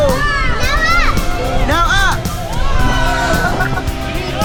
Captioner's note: laughing; upbeat music